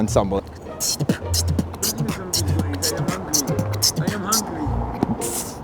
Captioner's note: beatboxing; beatbox failing